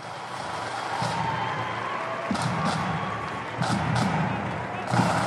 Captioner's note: crowd cheering, drums playing